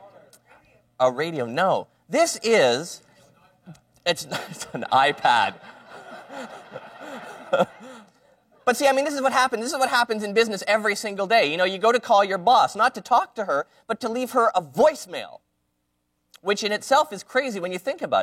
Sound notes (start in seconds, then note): 4.2 laughter